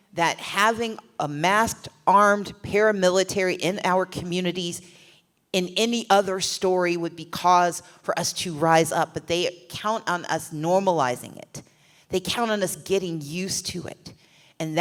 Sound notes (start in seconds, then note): none